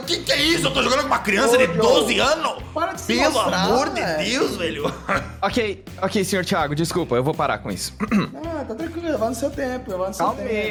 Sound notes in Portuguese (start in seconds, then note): 4.8 riso; 8.0 limpa a garganta